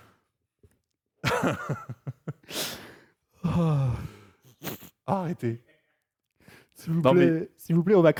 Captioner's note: laughs